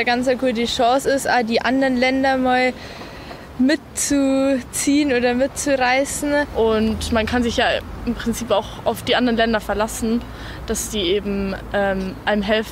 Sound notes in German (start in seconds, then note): 6.5 weibliche Stimme